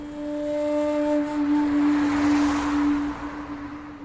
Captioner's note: sounds of car passing on road